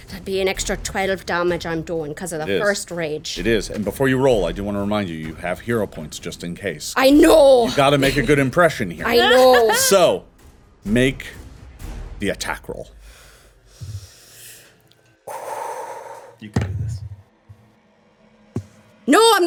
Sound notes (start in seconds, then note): 14.7 Omelet exhaling